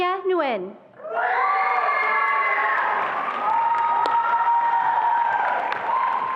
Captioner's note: attendees applauding and cheering